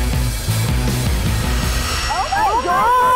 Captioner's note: hair dryers humming